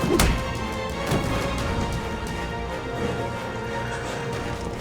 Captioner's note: Nomad growling